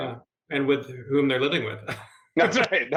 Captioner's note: laughs